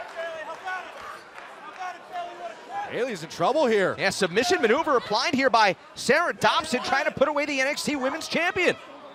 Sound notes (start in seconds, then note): 2.5 crowd chatter